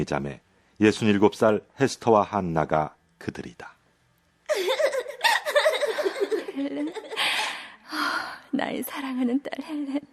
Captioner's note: laughs